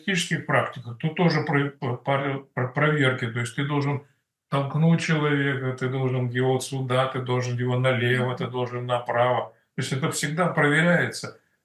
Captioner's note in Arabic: روسي